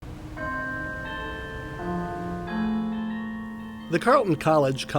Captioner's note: bell ringing